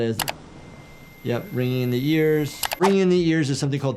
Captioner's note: tinnitus trilling